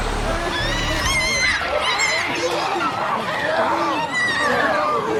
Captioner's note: screeches